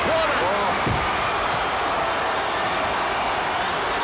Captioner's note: audience cheers